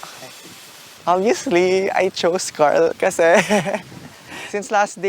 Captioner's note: giggling